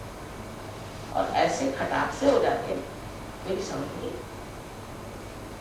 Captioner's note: hindi